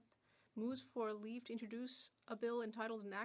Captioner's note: speaking French